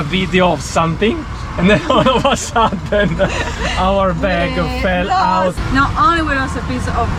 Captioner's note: laughing